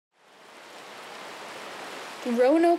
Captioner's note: river babbling